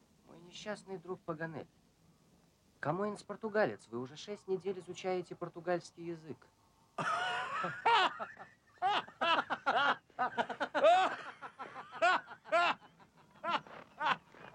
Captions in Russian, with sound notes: - Мой несчастный друг Паганель! Камоэнс - португалец. Вы уже 6 недель изучаете португальский язык! [смех]